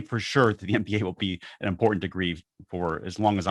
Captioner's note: laughs